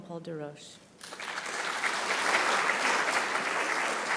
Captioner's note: applause